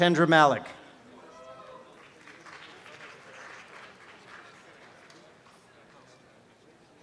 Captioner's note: applause and cheering